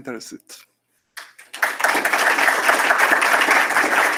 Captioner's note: applause